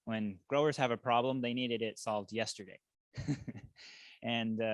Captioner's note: chuckles